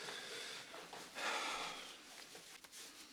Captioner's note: exhales